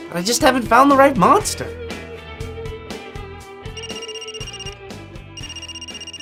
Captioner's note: phone rings